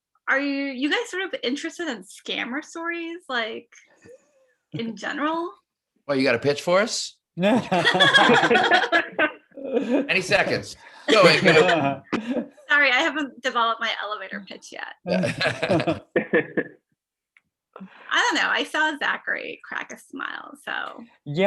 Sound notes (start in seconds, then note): 7.5 everyone laughs